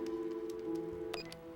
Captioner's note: phone beeps